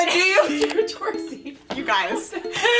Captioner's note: laughing